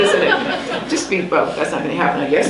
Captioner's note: laughs